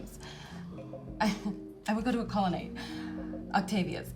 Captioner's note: laughs